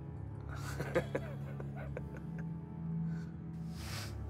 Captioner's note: laughs